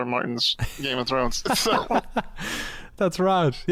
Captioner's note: laughter